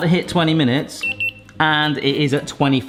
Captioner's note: thermometer beeping